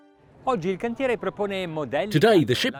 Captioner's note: speaking Italian